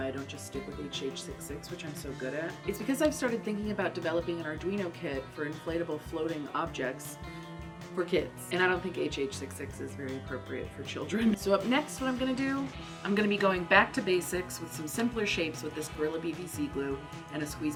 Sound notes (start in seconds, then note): 11.0 laughs